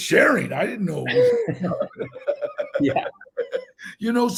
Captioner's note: Donal laughing